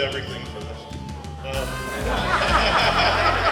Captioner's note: laughter